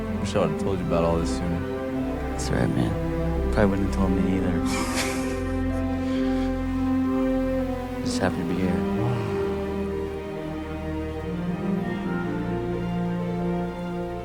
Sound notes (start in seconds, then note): 4.6 Lance laughing; 10.2 soft dramatic music continues